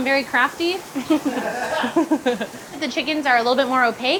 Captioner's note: staff laughing